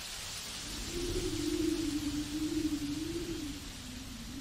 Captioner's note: wind blowing